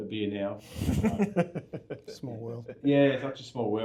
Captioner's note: laughing